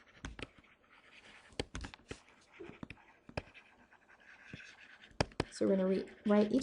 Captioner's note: chalk scratching on chalkboard